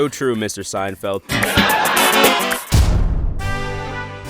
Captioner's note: audience laughs; dramatic music